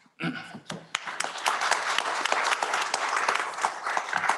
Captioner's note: applause